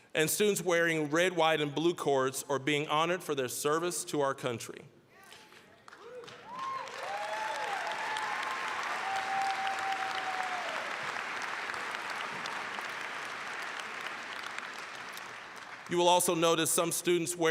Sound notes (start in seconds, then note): 5.7 applause, cheering; 12.5 applause